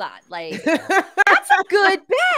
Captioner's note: laughs